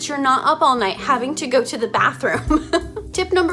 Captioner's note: chuckles